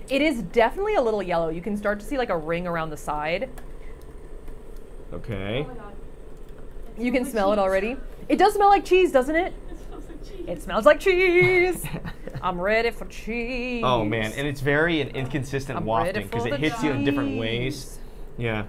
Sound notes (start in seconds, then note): 11.4 laughing